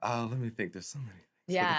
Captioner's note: laughs